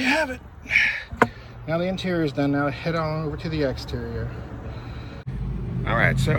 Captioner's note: heavy Sigh due to 95 degree weather